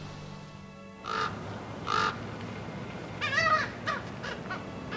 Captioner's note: ravens in trees making calls